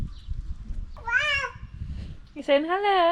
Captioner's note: baby shouting at the dogs